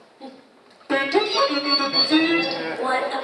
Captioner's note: computer beeps indistinctly